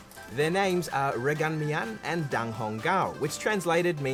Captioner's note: speaks chinese